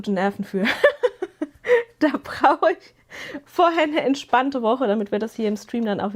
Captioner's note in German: gelächter